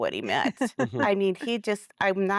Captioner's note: laughter